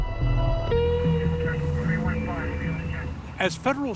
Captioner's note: police chatter